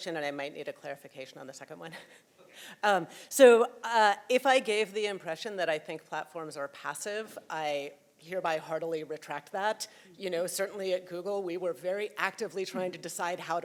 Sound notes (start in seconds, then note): 1.9 chuckling